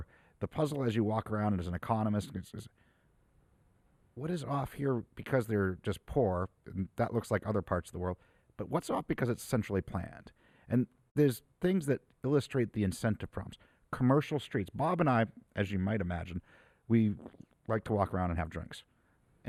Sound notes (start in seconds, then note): none